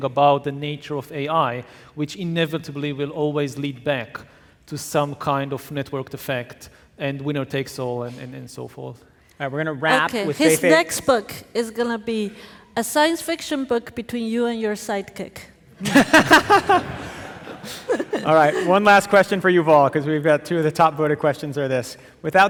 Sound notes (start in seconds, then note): 15.8 audience laughing